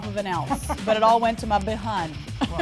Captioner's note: laughing